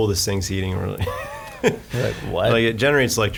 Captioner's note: laughing